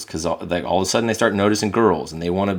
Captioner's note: none